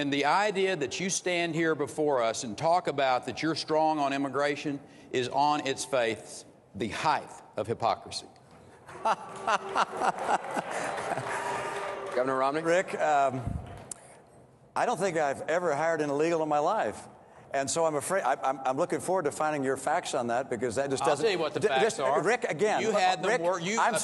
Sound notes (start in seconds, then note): 8.8 laughter